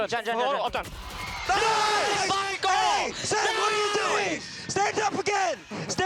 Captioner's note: cheering